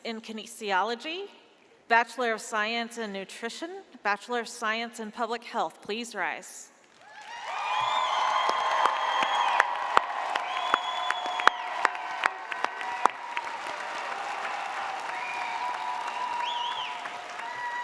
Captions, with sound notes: in Kinesiology, Bachelor of Science in Nutrition, Bachelor of Science in Public Health, please rise. (audience cheers)